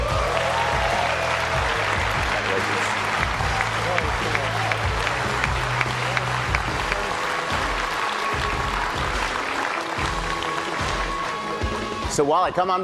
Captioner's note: applause